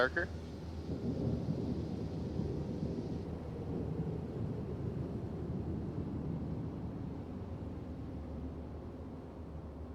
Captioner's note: thunder rumbles